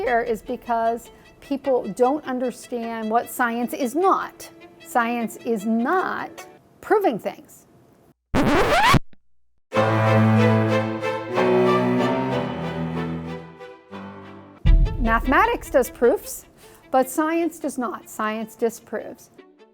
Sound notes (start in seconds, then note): 8.3 record scratching; 9.7 dramatic music